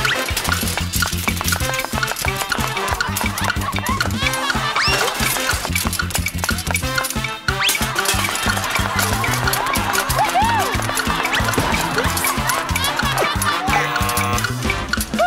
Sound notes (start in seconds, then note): 13.6 buzzer